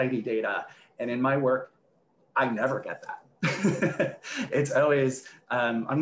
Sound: laughs

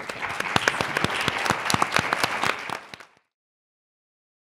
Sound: audience applauding

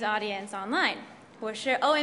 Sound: translates in Mandarin

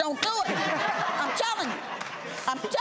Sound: audience laughs

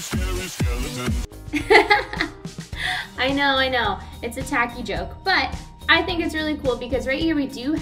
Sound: laughter

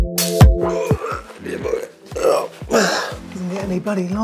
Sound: slow electronic music; groaning

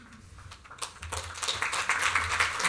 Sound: applause

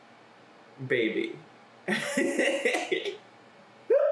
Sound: laughs

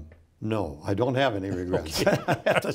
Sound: both laughing

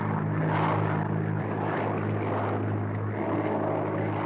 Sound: plane roaring

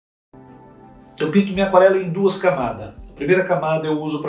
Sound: speaking portuguese

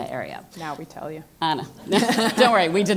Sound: laugh

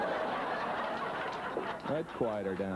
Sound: audience laughs

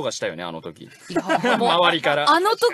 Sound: staff laughing

